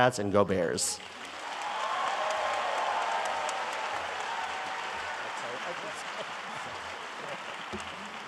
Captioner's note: audience cheering and applauding